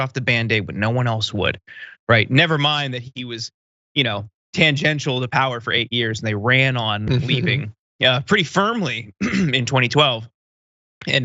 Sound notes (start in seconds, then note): 9.1 cough